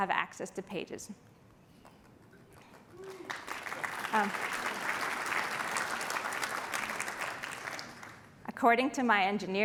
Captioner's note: applause